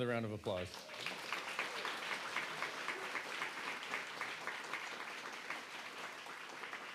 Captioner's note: applause